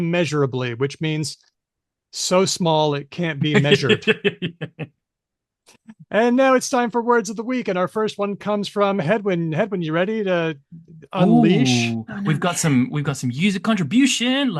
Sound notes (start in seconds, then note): 3.4 laughs